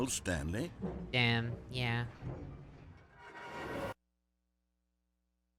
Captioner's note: machine whirring; silence